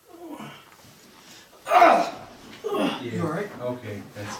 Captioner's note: loudly grunting, gasping for air